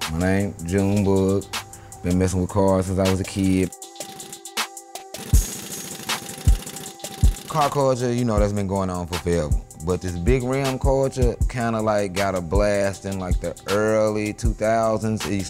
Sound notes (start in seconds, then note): 5.1 power tool